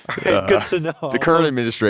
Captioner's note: laughs